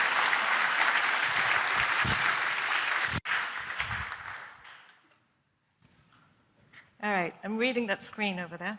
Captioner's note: cheers and applause